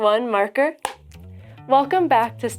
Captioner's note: slate claps